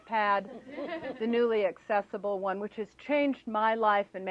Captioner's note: laughter